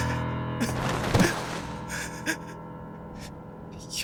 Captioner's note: sobbing